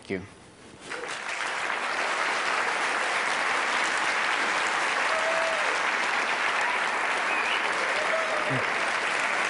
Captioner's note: applause